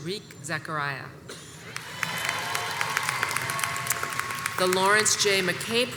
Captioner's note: audience applauds and cheers